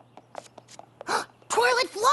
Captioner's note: gasps